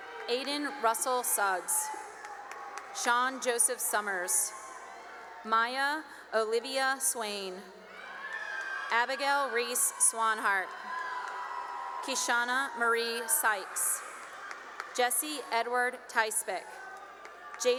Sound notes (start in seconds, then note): 0.0 cheering and applause; 4.6 cheering; 7.7 cheering; 11.1 cheering; 13.4 cheering and applause; 16.8 cheering